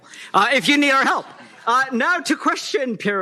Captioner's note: laughter